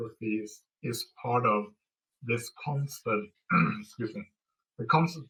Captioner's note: throat-clearing